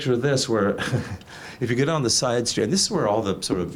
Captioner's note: chuckles